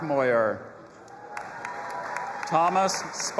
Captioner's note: audience applauding and cheering